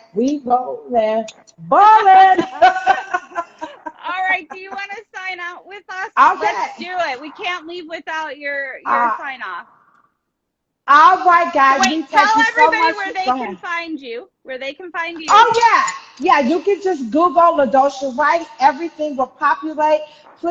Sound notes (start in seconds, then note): 2.2 both laughing